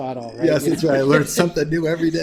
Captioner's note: laughs